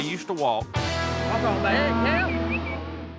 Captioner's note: cattle moo